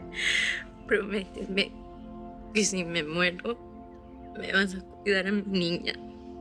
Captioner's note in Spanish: Sollozos